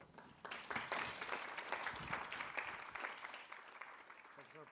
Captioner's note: audience clapping